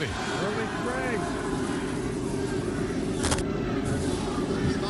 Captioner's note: cheers and applause